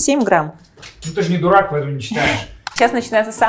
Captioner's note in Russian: закадровый голос